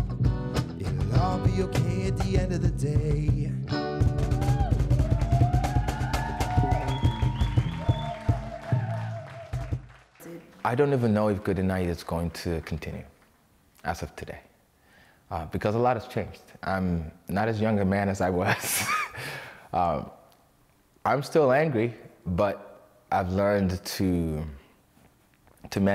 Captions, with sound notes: (SINGING) It'll all be OK at the end of the day. [cheering] I don't even know if Goody Night is going to continue, as of today. Because a lot has changed. I'm not as young a man as I was. I'm still angry, but I've learned to manage